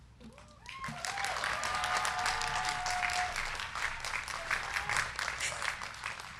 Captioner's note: crowd cheering; crowd clapping